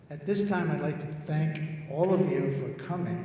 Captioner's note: none